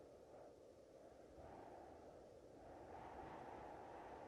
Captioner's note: none